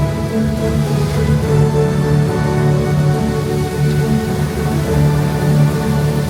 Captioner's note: epic music plays; fountain splashes